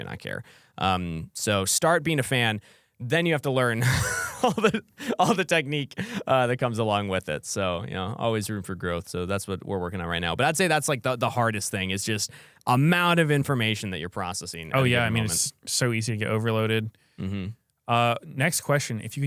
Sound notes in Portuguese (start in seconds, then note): 3.8 risos